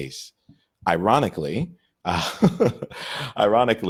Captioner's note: laughs